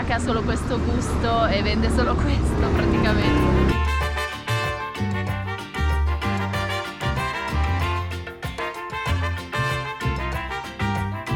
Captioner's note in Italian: Applauso